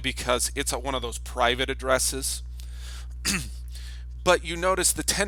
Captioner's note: clears throat